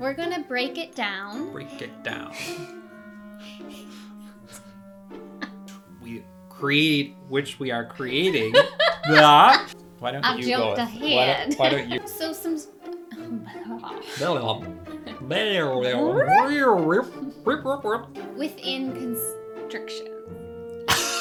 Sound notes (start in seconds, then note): 3.4 both laugh; 8.2 laughs